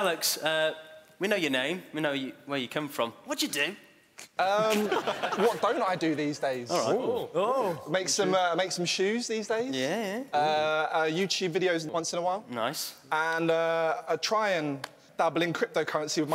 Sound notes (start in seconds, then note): 4.6 laughing